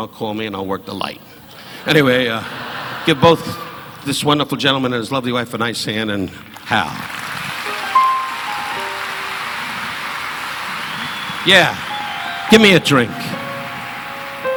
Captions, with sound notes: call me and I'll work the light. Anyway, give both this wonderful gentleman and his lovely wife a nice hand and Hal. (audience applauding) (slow gentle music) Yeah, give me a drink.